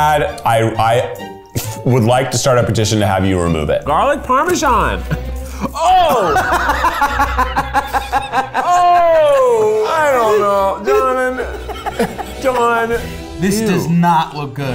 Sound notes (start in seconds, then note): 6.3 laughing; 10.7 both laughing